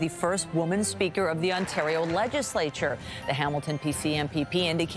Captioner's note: cheers and applause